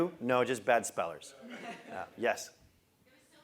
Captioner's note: laugh